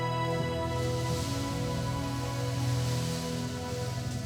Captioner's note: foil rustling